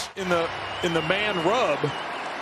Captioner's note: applause